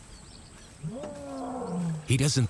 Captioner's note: lion roaring